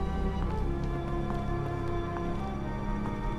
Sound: footsteps

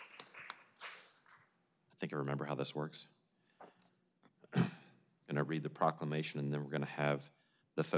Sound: applause

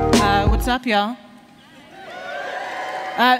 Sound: cheers

